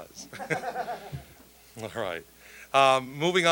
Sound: all laughing

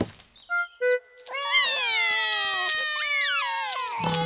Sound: both cry

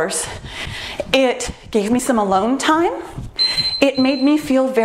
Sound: timer beeps

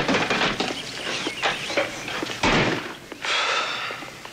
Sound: sighs

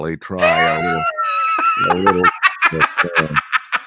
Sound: laughing

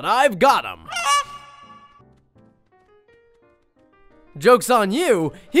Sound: goose squawks

